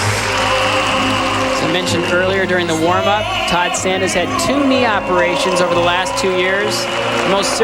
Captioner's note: crowd cheering